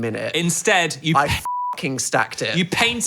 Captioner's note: beep